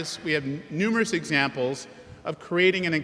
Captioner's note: none